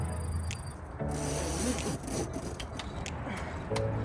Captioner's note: upbeat music; zipping noises; upbeat music continues